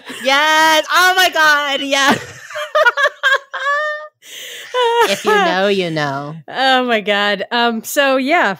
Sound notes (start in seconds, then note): 4.4 laughing